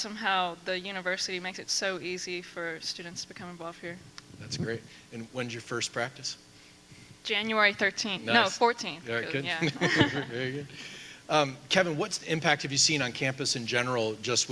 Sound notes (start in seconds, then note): 9.4 laughs